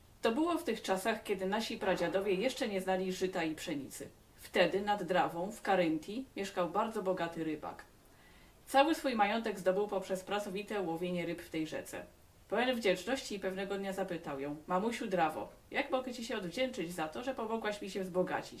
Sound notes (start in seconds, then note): 2.4 reading in Polish